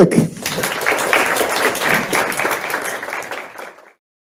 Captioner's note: crowd applauding